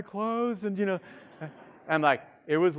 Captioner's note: students laughing